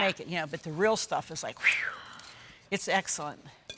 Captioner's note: whistles